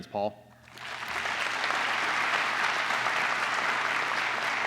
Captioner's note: applause